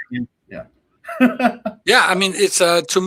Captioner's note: laughs